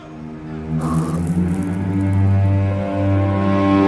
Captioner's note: Tina blows